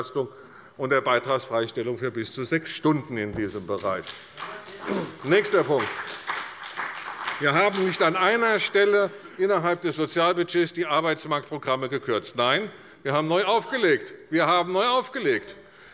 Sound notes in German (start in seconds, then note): 3.7 Beifall bei der CDU und dem BÜNDNIS 90/DIE GRÜNEN